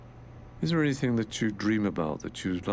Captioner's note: voiceover